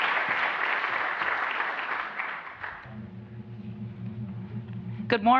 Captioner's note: applause